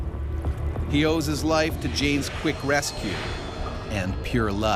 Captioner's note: voiceover